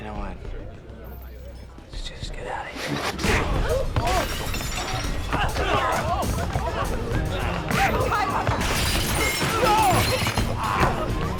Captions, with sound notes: - You know what? Let's just get out of here. (punch thudding) (glass clattering) - Tyler! (clattering)